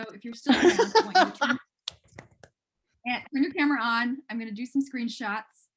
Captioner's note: laughter